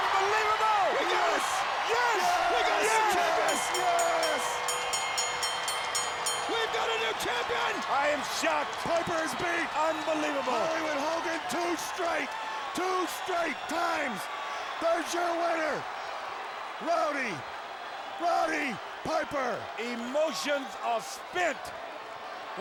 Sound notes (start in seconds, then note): 2.6 bell dinging